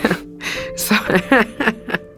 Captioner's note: laughs